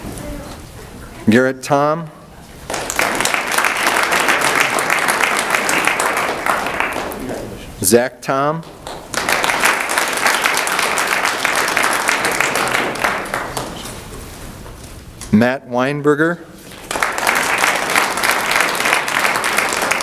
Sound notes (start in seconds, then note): 2.6 audience applauds; 8.7 audience applauds; 16.7 audience applauds